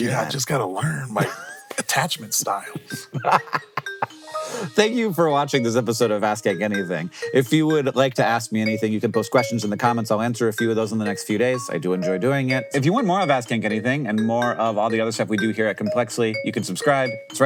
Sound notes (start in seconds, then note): 3.1 laughing